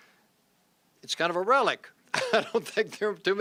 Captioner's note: laughs